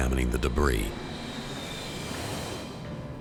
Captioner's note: jets soaring